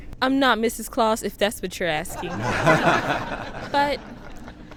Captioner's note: audience laughs